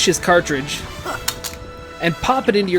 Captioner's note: puhh